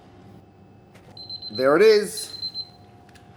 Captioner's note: beeping